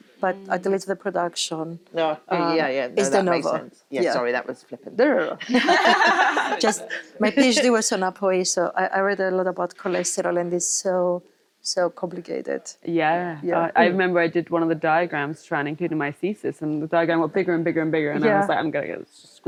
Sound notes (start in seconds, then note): 5.4 all laughing